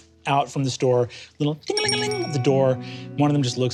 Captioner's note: mimics bell ringing